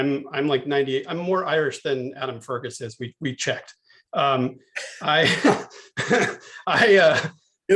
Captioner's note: laughter